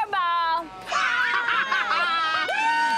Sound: laughter

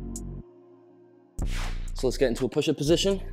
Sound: whooshing sound

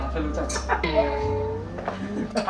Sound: both laugh

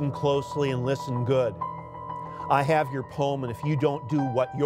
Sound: reciting

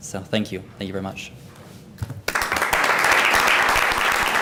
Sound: applause

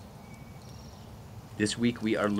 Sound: wind blowing

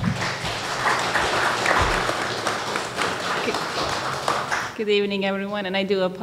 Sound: audience applause

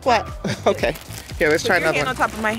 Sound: chuckles

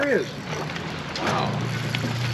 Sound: reel spinning

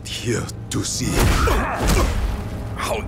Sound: grunting

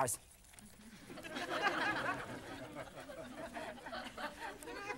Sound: audience laughing

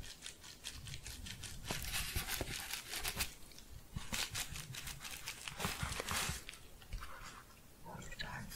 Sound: gentle crinkling

